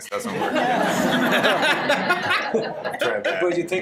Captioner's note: audience laughter